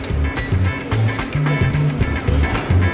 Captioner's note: beeping; upbeat music